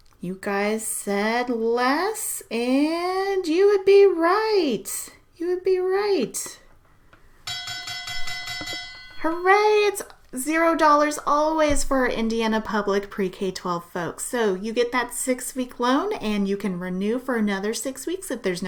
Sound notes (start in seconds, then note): 7.4 bell ringing